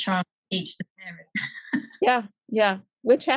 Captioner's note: laughs